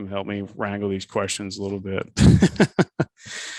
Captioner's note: laughs